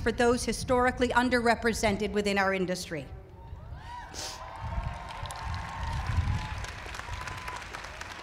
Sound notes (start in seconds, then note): 3.5 cheering